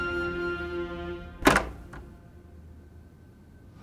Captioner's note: door rattling